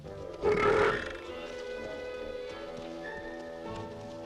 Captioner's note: Torente belches